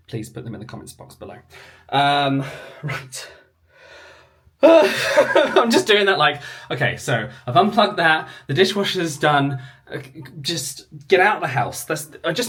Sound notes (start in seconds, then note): 4.6 laughs